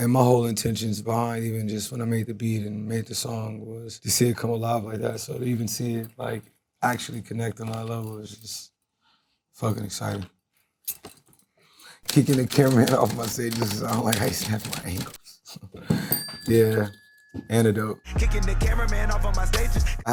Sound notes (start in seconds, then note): 16.0 bell dings